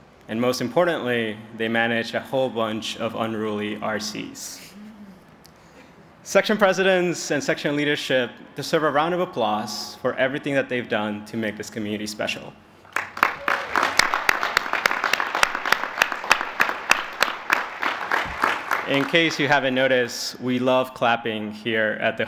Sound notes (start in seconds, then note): 12.8 applause